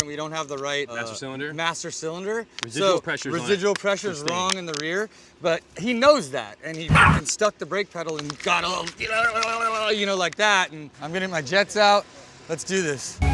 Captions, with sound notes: and we don't have the right-- - Master cylinder? - Master cylinder. - Residual pressure's-- - Residual pressure's wrong, in the rear, but he knows that, and he stuck the break pedal (Mochi barks) and got a little (shouts) like that. I'm getting my jets out, let's do this.